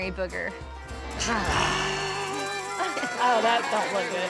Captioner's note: grunting